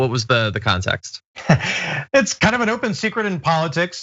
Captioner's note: laugh